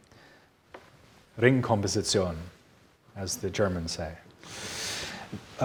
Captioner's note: speaking in German